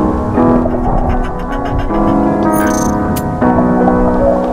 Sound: gentle music; dolphin bleating

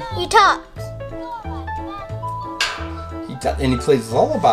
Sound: toy talking

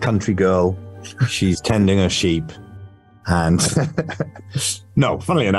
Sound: laughs

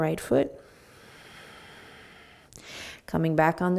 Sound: breathing

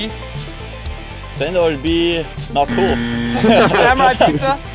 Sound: laughing

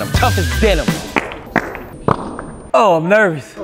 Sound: flatulates

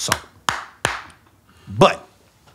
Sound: claps hands

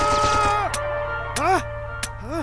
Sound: click click!

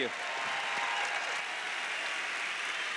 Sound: cheers; applause

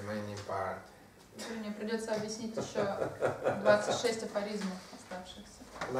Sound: hahaha

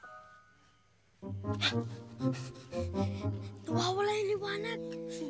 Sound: gasps

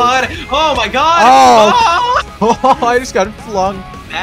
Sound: scream

